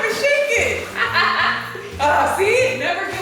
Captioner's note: laughs